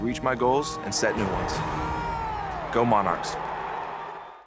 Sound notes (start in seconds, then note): 3.5 crowd cheers